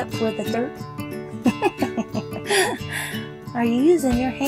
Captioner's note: laughs